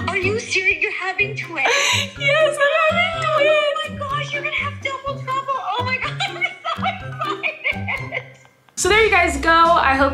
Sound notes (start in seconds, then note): 1.6 Ro gasps